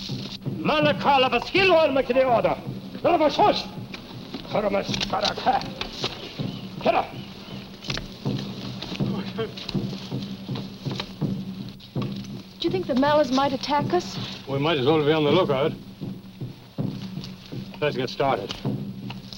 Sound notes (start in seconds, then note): 0.5 speaking in foreign language